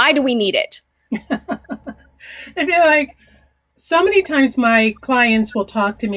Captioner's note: laughing